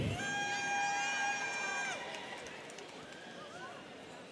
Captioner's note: students cheering